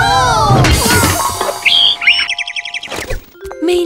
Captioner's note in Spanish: Sonido de pajaro